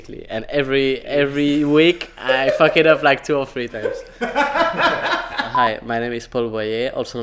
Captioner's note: laughing